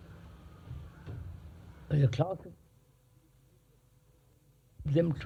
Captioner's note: break in audio